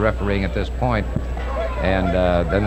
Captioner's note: referee shouting